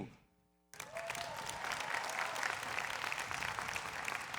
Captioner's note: people clapping